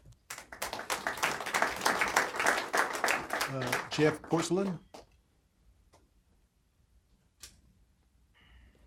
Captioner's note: applause